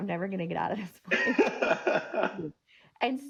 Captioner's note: laughing